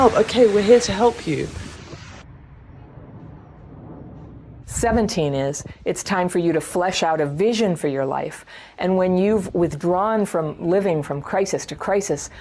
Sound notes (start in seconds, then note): 2.4 airplane sound